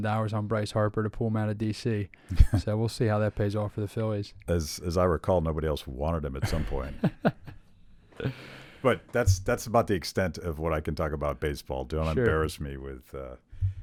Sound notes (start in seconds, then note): 6.4 laughs